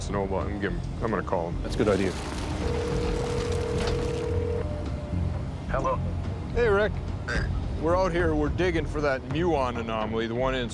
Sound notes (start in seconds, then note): 2.6 line ringing